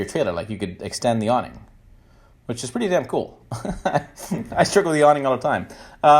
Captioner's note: chuckles